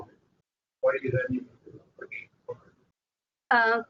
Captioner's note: talking